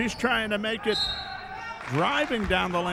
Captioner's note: referee whistling